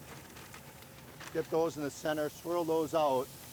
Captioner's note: paper crinkling; grill sizzling